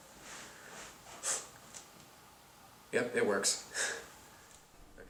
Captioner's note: blows